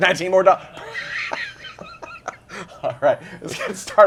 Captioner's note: laughter